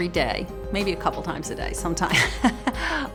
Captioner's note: laughs